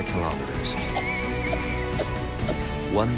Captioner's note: bird calling